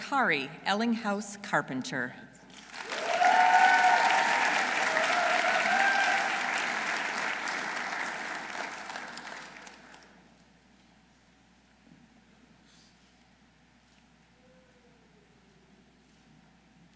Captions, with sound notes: Dr. Cari Ellinghaus Carpenter. -(audience cheering) -(audience applauding)